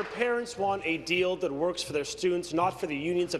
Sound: applause

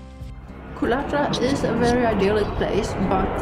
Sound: loud sound of airplane

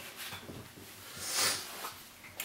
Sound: sniffing

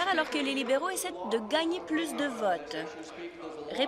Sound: applause

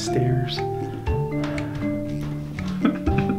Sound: laughing

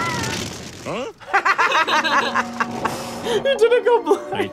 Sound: both laugh; laughs

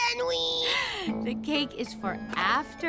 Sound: gasp

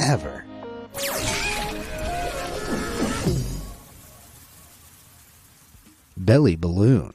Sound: mascot screaming; upbeat music

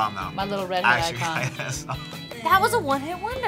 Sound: laughs

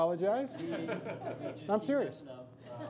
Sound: audience laughs

